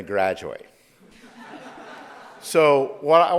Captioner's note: audience laughs